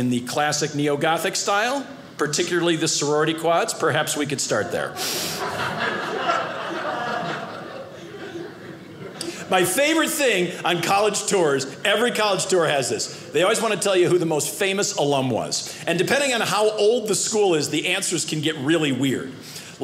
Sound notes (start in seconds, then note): 4.9 audience laughing